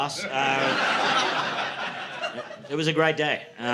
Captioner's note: audience laughing